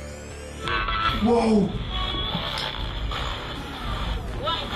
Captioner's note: buzzing electronic effects